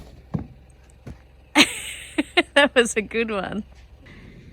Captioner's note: chuckles